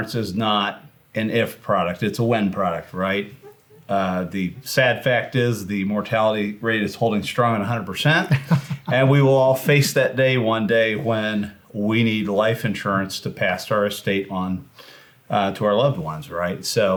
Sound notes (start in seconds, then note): 8.2 laughs